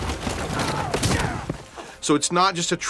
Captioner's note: grunts